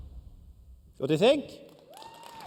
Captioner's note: cheers and applause